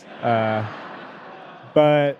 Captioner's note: audience laughing